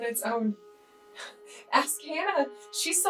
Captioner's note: chuckles